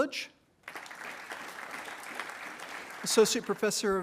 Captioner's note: attendees applauding